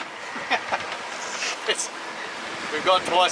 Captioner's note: laughs